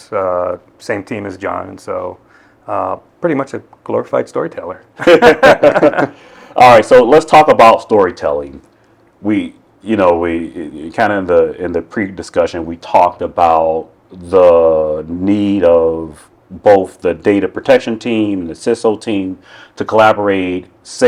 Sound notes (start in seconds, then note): 5.0 men laughing